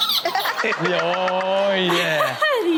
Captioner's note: toddler shrieks with laughter; Chanel laughs